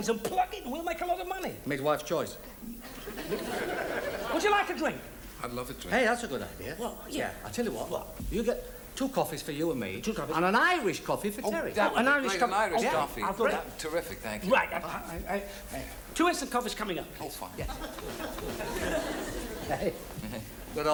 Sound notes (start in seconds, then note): 2.8 audience laughs; 17.6 audience laughs